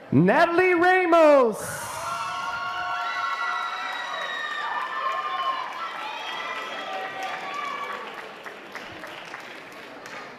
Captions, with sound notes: Nathaly Ramos. (applause)